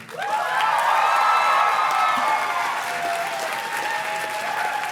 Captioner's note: audience cheers and claps